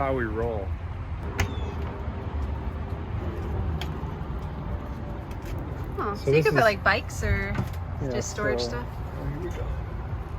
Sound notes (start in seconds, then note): 1.7 camper door opens